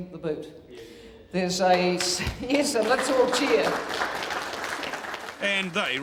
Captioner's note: applause